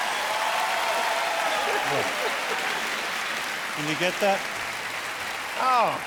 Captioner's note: cheers and applause